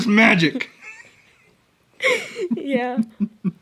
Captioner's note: both laughing